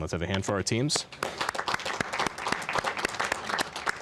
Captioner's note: applause